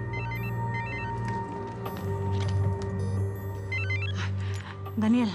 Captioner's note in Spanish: suena el celular